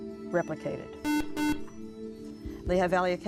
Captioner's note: buzzer